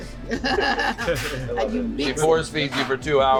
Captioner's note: chuckle